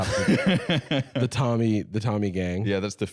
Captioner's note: laughing